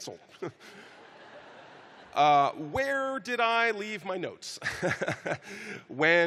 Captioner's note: chuckling